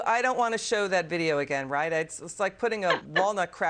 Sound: laughter

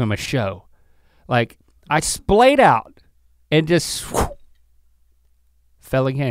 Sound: exhales sharply

